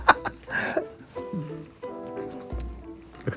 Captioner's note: laughing